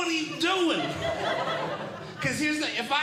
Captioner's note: audience Laughing